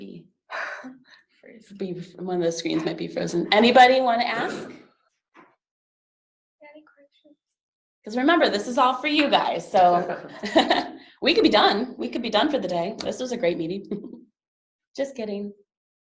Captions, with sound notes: A lot of them might be, one of those screens might be frozen. Anybody wanna ask? Because remember, this is all for you guys. We could be done for the day. This was a great meeting. [laughs] Just kidding.